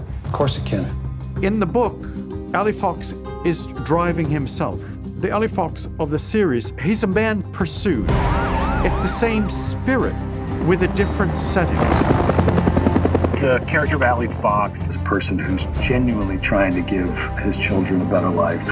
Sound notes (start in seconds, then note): 8.1 police sirens; 11.7 helicopter engine